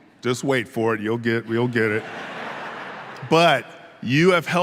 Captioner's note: audience laughing